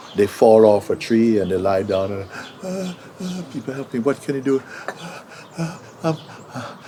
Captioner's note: makes sounds of pain